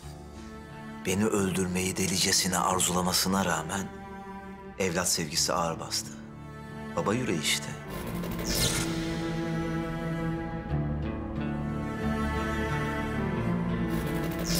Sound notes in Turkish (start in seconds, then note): none